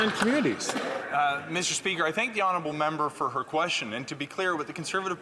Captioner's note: some Applause